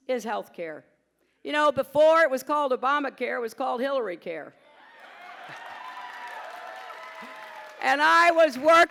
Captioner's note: applause